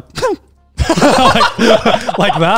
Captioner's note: laughs